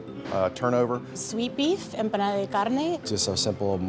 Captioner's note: speaking in foreign language